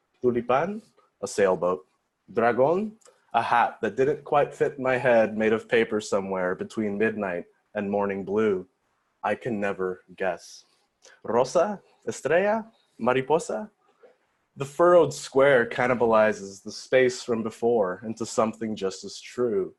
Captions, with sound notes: [foreign language], a sailboat. [foreign language], a hat that didn't quite fit my head made of paper somewhere between midnight and morning blue. I can never guess. [foreign language], the furrowed square cannibalizes the space from before into something just as true.